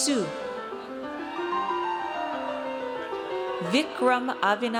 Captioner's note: audience cheers